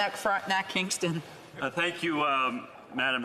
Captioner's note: speaking French